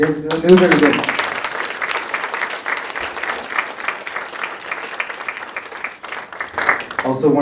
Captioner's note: applause